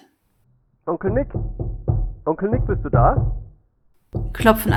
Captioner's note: knocking on the door